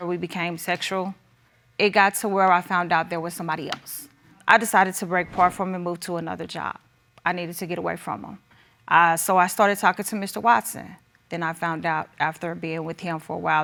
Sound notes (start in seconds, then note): none